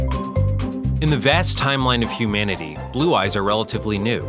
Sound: voiceover

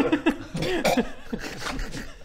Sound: chokes

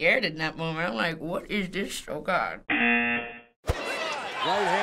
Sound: buzzer

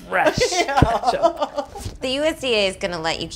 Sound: laughing

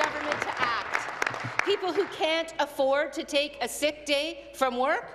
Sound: applause

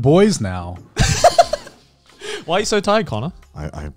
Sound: chuckling

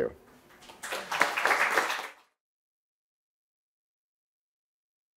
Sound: audience applauding

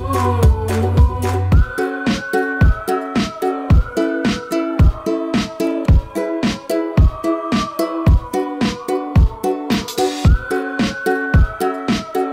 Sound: whistling

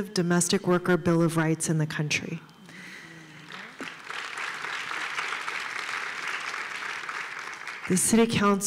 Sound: applause

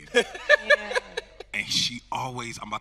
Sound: host laughing

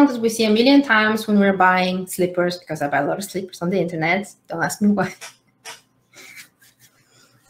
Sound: laughs

